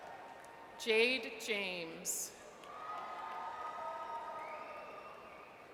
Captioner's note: audience cheers; audience cheers